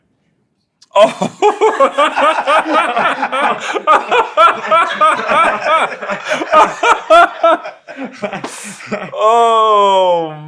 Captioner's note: laugh